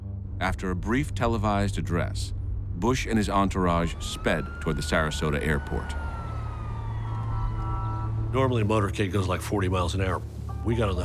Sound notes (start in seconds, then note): 7.2 sirens blaring, horns beeping